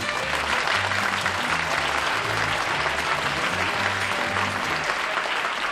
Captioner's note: applause